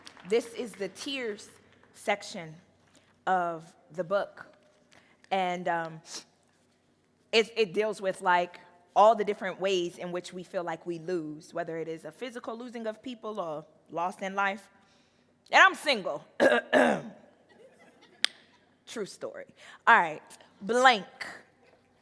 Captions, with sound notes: This is the tears section of the book. And it deals with like all the different ways in which we feel like we lose, whether it is a physical losing of people or loss in life. And I'm single (clears throat). (audience laughing) True story. All right, "Blank."